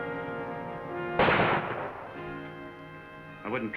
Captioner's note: gunshot